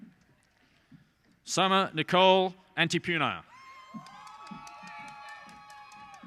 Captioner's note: cheers and applause